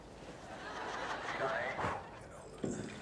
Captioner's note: laughter